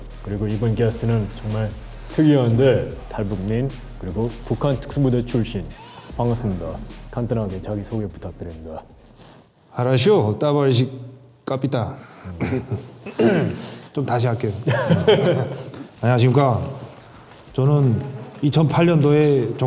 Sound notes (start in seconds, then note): 13.0 clears throat; 14.6 laughs